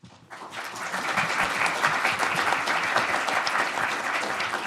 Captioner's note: audience applauding